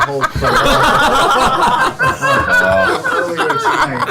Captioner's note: all laugh